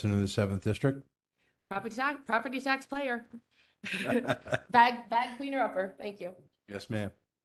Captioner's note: laughter